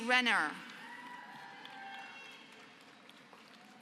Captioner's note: applause